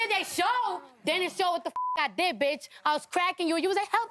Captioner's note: beep